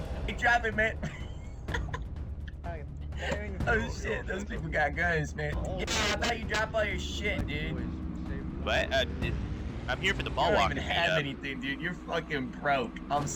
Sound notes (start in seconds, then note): 0.8 laughs; 3.1 laughs; 5.5 distorted mic